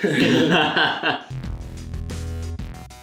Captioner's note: both men laughing; funky music